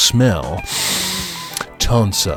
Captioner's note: inhales deeply